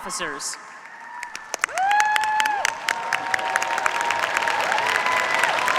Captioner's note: cheers, applause